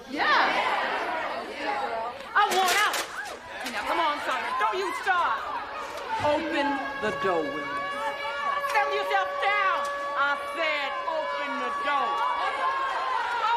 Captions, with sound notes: (inmates murmuring) I want out. Now come on, Sondra. Don't you start. Open the doors. (alarm blaring) Settle yourself down. I said open the doors.